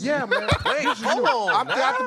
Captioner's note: laughter